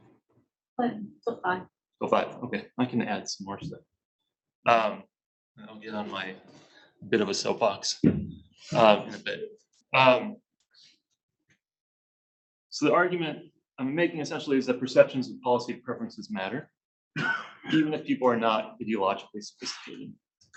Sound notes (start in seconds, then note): 17.1 coughs